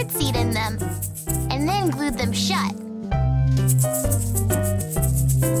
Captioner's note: rattling continues